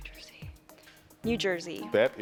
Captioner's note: whispering